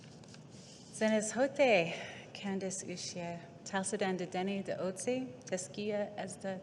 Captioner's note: speaking indigenous language